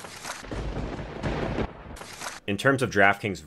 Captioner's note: thunderbolt strikes